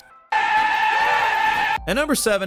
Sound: gun screaming

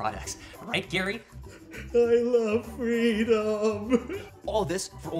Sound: crying

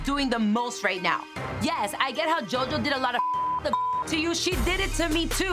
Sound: beep

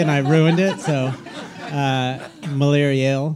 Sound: all laughing

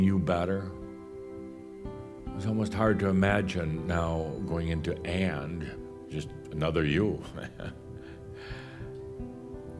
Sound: chuckles

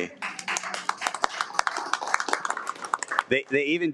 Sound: applauds

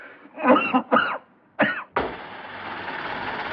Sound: coughing

